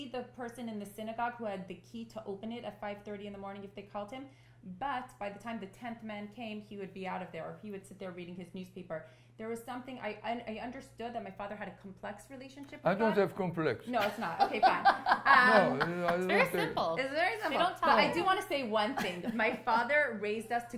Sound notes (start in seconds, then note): 15.7 laughter